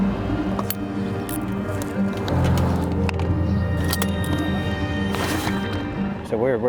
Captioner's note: gentle music; traffic droning; motor droning; metal clicking